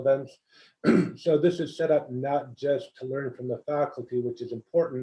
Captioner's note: cough